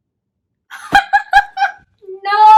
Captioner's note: laughing very loudly